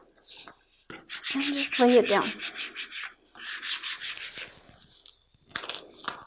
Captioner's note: rubbing